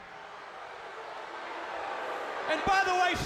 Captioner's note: attendees booing